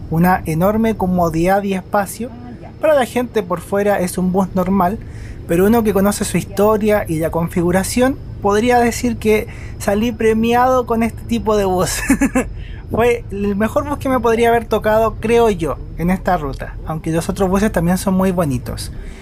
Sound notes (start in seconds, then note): 11.8 laughs